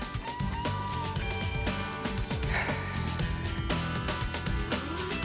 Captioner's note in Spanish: suspiro